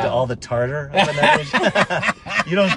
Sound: laughing drowns out speaker

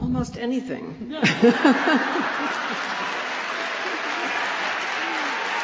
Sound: laughter

